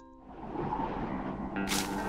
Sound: wind blowing

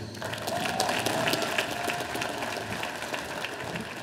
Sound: audience applauding

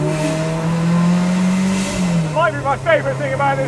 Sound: car engine roars

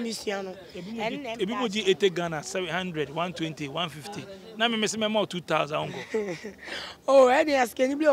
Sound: laughs

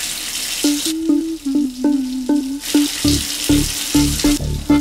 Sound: she is humming

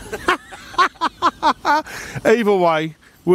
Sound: laughs

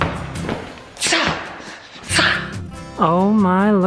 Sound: fighting noise

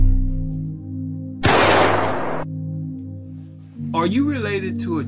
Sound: gunfire banging

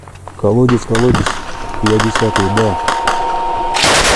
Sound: radio exchange

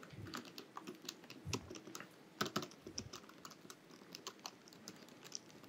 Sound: keyboard sound

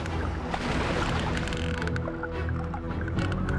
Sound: whales clicking

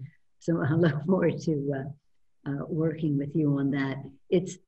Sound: laughs

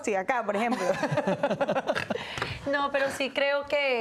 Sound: Risas

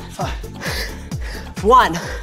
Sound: gasping

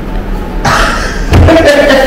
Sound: laughs

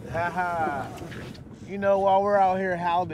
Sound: chuckling

